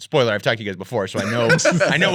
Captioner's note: laughing